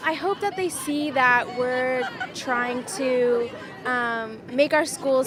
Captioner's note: crowd chanting